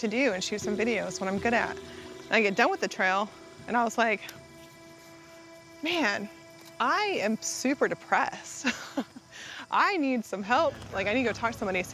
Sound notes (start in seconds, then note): 8.6 laughs